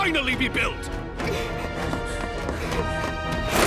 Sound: all panting

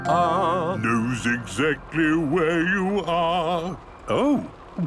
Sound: mimicking tune

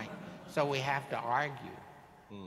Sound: audience laughing

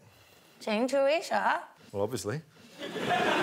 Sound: speaks Chinese

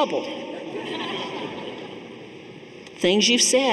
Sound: audience laughing

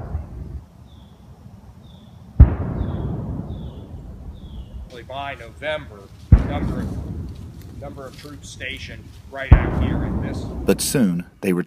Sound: boom of cannon in the distance

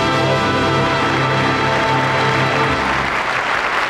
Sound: audience applauds

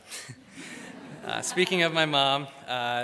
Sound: crowd laughs; laughs

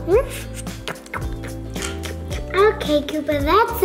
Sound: eating sounds

